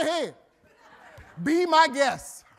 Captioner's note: audience laughing